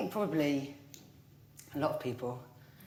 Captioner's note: none